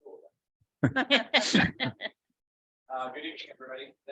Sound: board members laughing

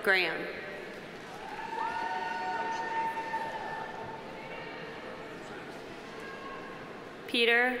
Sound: audience cheering; audience applauding

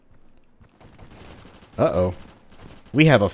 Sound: distant gunfighting

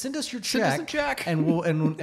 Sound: laughs

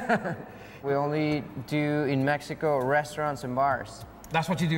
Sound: laughs

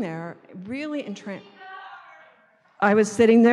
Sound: voiceover

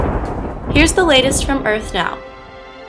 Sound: thunder

